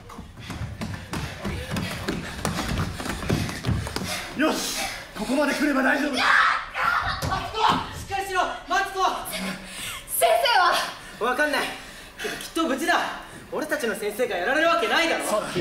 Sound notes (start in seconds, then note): none